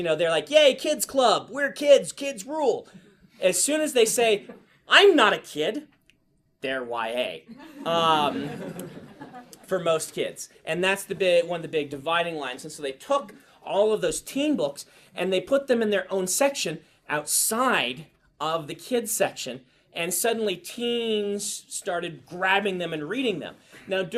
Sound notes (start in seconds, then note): 7.5 class laughs